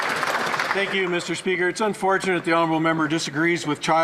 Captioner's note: some Applause